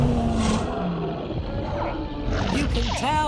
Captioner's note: dinosaurs roar and squeak